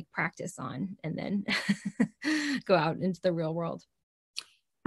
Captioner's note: chuckles